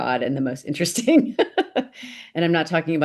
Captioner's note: laughs